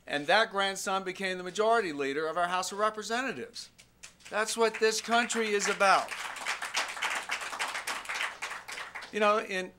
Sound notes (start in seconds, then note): 4.3 scattered applause